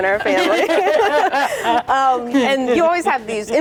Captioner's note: laughing